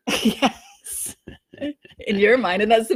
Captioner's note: laughs